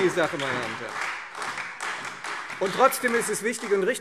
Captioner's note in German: Beifall Freie Demokraten, SPD und DIE LINKE